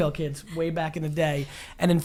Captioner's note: laughs